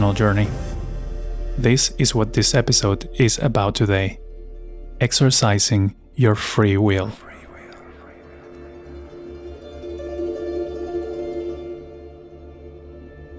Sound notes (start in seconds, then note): 7.2 voice whispers “free will”